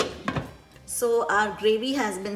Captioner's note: lid clinking